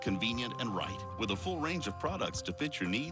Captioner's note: none